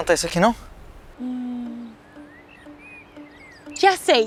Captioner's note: birds